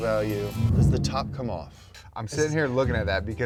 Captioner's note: bomb explodes